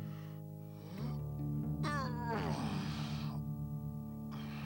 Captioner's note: Groden grunts